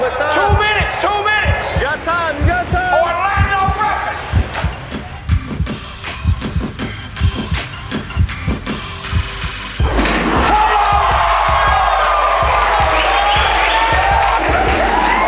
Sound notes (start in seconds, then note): 5.1 inspired music continues; 10.5 spectators applauding